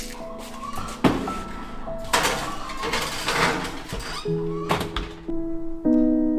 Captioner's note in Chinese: 背景可以听到母鸡们吵闹着要出去玩的声音